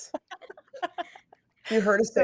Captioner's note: laughs